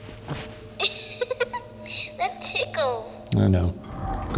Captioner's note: laughing